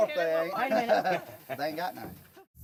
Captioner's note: laughter